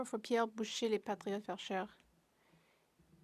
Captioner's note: speaking French